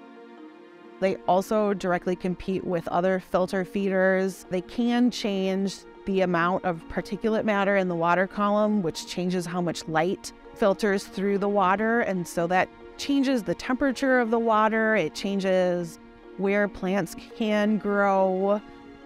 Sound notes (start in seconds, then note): none